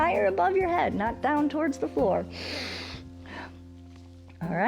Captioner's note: inhales and exhales